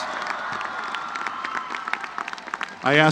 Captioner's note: applause